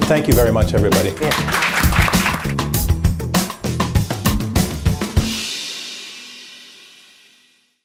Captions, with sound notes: Thank you very much, everybody. (audience applauding) (upbeat music)